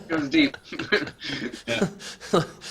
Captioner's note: laughs; all laughing